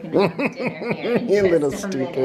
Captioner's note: dad chuckling heartily